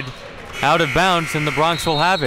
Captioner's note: buzzer rings